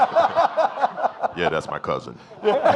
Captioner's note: laughs; audience laughing